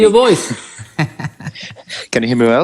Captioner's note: laughing